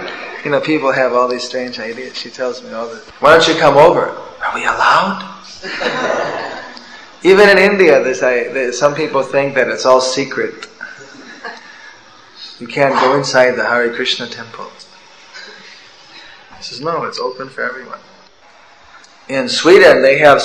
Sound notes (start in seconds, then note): 5.6 laughter